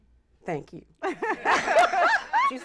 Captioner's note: laughter